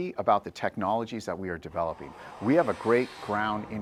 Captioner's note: missile whooshing